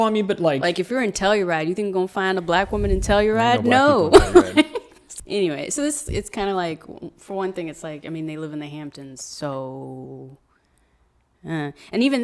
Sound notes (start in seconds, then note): 3.2 laughs